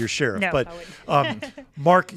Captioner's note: laughs